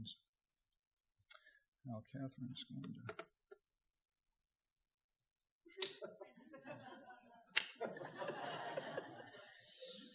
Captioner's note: audience laughter